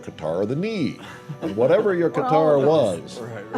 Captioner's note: laughter